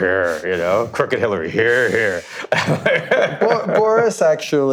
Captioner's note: laughs